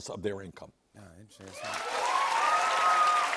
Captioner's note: cheers and applause